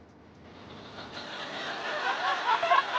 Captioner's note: laughter